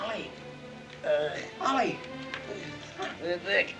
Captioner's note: Ollie groans